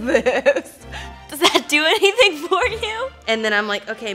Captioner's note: laughs